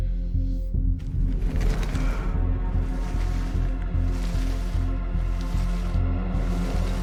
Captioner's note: soft tense music continues; fabric rustling